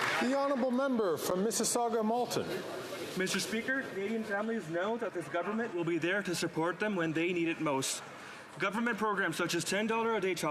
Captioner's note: some Applause